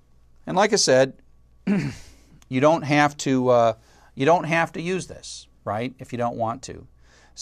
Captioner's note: cough